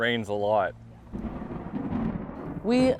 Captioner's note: thunder crashes